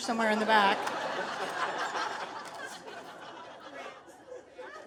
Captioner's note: audience laughing